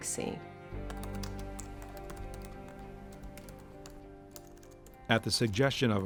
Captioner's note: typing